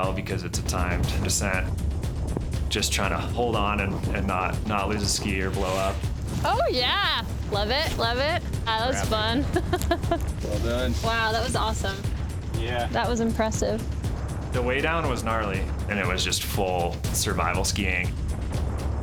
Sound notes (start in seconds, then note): 8.7 laughing